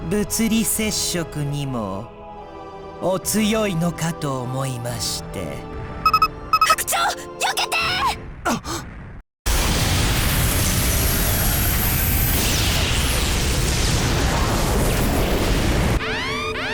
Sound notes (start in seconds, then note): 8.5 realization gasp